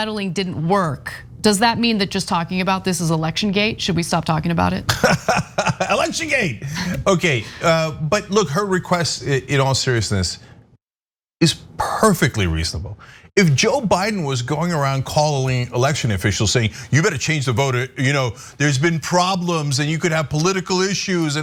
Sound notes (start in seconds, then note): 4.9 laugh